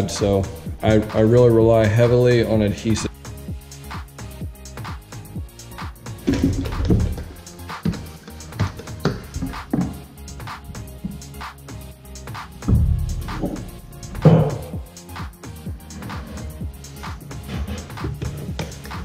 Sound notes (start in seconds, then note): 6.2 wood banging